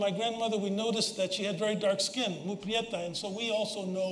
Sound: spanish

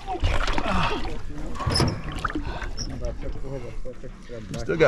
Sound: fish splashing; background chatter

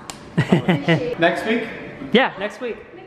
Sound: laughs

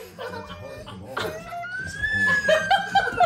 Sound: crying; laughing

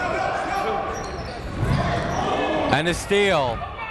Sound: shouting

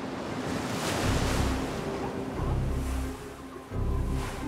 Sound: seals bark

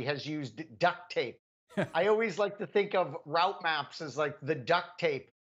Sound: laugh

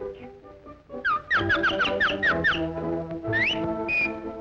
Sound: flirty orchestra music; birds chirp

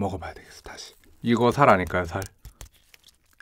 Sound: tap Tap

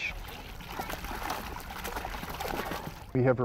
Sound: splashing

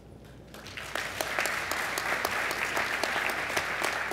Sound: applause

